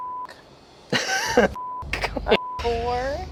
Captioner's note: laughs; beep